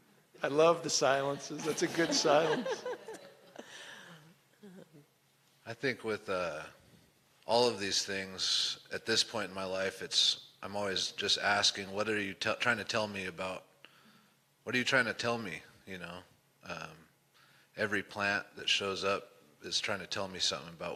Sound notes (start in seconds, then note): 1.6 scattered laughter